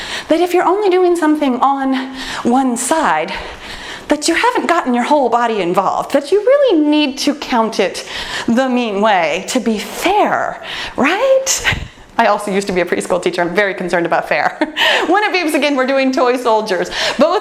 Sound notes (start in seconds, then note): 14.7 laughs